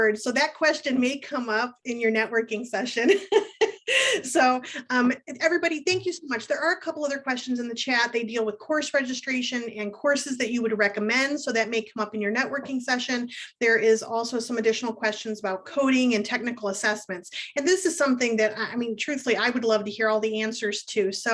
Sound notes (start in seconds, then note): 3.0 laughs